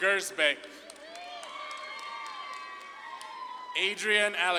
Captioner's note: audience claps and cheers